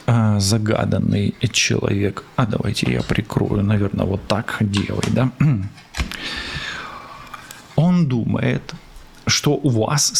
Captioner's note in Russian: откашливается